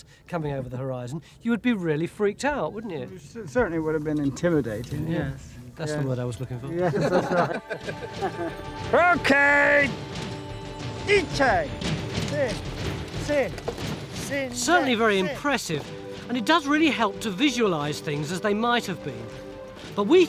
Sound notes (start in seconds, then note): 6.5 men laughing; 7.6 lively music; 9.3 speaking foreign language